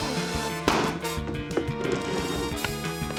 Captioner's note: pop!